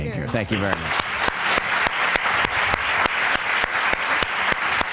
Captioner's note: applause